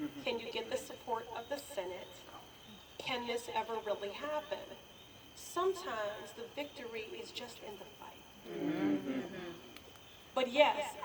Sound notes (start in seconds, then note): 8.4 murmurs of agreement